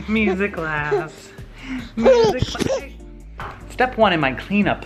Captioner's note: baby continues to laugh